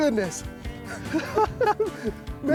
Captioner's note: both laugh